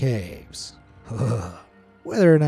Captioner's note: narrator's voice quavers